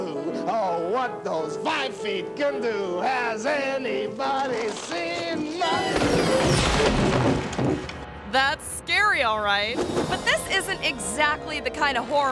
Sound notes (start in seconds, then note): 4.4 person thuds; 5.5 playful music